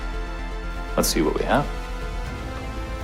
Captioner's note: voiceover